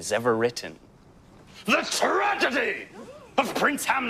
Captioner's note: crowd gasps